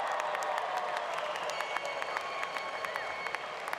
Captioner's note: applause